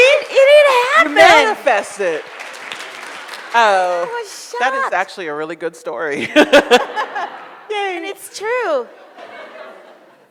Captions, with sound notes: - You see? - And it happened! - Manifest it. - I was shocked! - That is actually a really good story. (audience laughs) Yay. - And it's true!